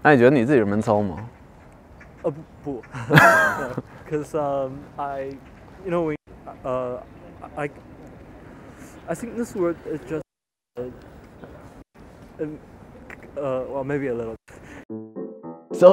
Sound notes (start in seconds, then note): 0.1 speaking in foreign language; 2.9 laughter; 6.9 stuttering